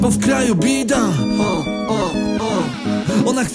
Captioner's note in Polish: bida piszczy